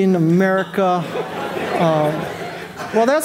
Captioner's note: audience laughing